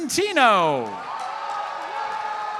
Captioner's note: audience cheers and applauds